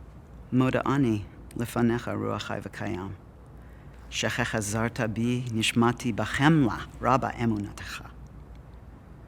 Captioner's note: Hebrew